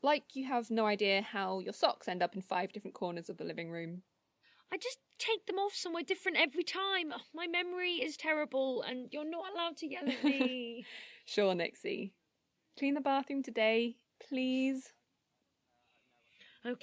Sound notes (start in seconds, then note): 10.0 laughing